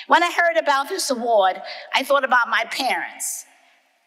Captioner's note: none